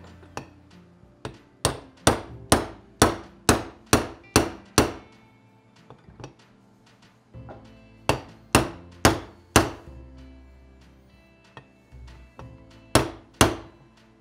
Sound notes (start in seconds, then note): 3.0 hammer tapping